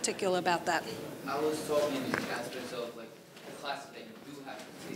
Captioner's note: speaking faintly